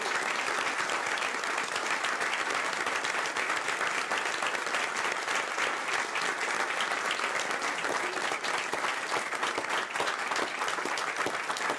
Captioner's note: applause